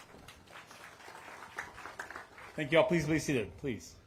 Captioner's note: applause